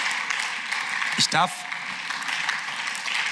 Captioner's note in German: Beifall